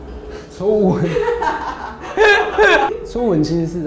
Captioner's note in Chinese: 大笑